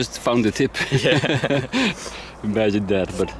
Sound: group laughs

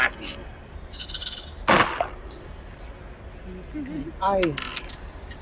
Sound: dice rattling

